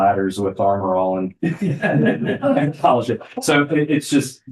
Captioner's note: laughter